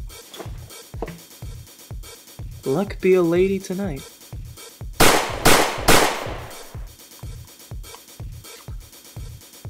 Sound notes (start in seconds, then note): 4.9 bang! bang! bang!